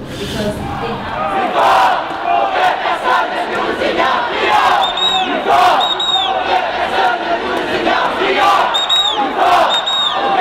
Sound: protestors chanting slogan

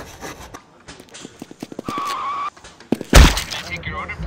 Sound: footsteps and screeching brakes

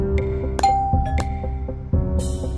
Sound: bell rings

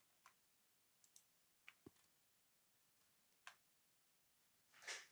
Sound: mouse clicking

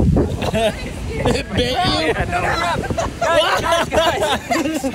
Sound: laughing

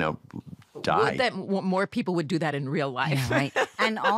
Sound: laughs

